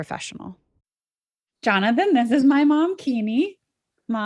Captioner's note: on Zoom call